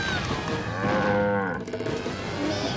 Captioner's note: cow moos